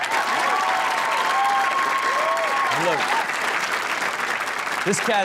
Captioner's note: audience cheers and claps